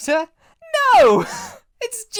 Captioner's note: laugh